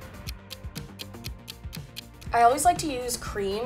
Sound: clock ticks

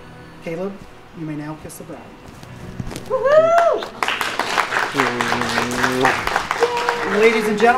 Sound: cheers and claps emerge from the audience

